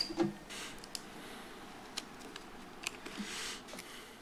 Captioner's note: footsteps